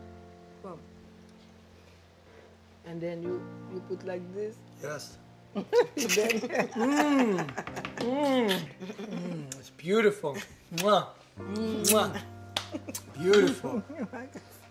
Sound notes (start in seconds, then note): 5.6 laughs